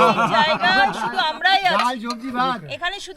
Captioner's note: loud laughter